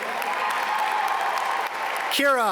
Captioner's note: audience cheer and applaud